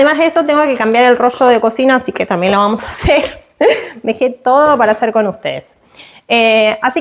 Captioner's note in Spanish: risas